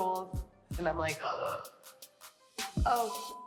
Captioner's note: gasps